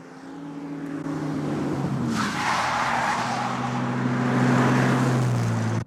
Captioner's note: tires squealing